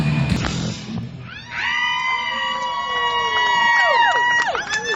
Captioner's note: crowd cheering